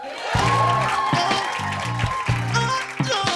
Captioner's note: cheers and applause